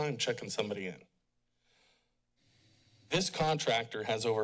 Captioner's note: pause